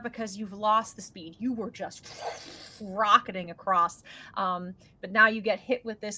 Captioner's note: imitates whooshing